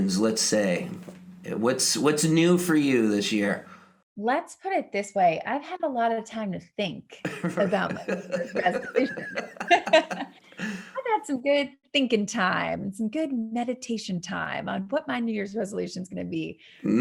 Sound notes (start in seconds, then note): 7.2 laughing